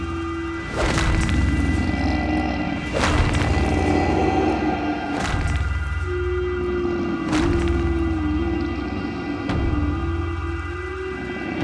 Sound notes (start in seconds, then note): 2.6 growling; 4.4 whistling